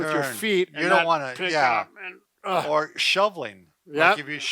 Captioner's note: grunts